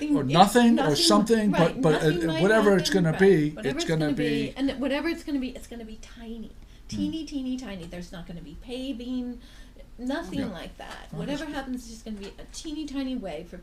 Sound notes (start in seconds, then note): 3.3 voiceover